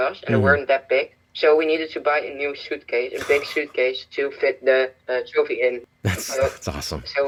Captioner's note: laughs